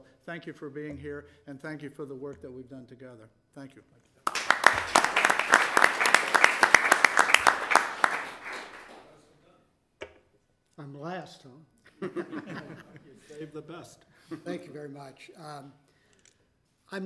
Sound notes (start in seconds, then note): 4.2 applause; 12.0 audience chuckling